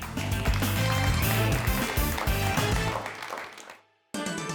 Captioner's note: everyone applauds